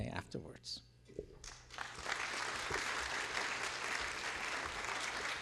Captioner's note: applause